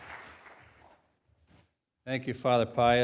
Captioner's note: applause